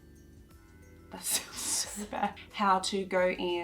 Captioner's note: crew Member laughing